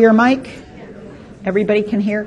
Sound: voice muffled

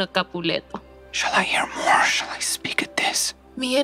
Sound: whispering

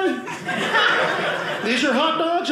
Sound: audience laughing

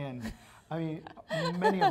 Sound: laughs

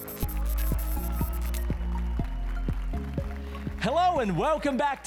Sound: applause and cheers

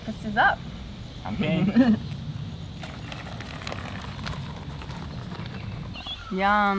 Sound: laughing

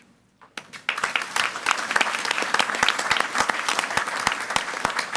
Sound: audience applauding

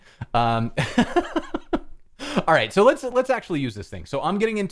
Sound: laughter

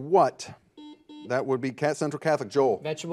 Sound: buzzer buzzes

